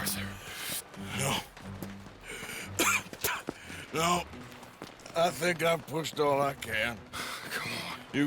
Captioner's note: coughs and spits